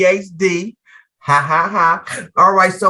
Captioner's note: laughs